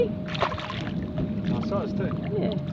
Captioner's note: gentle water splashes